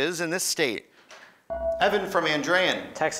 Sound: ding

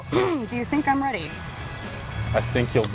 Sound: yelling

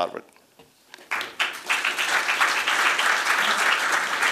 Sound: applause

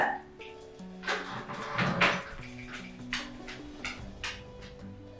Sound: collar shaking; jar shaking; gentle music

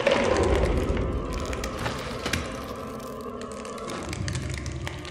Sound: crawling and slapping sound of fingers

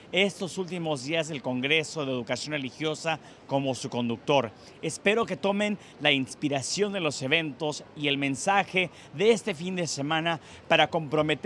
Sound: speaking spanish

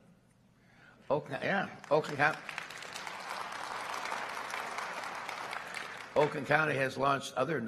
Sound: applause

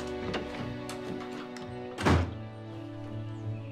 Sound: door closes

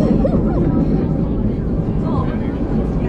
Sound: laughing

